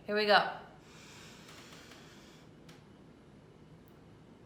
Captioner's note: deep breath